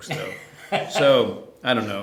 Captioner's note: laughter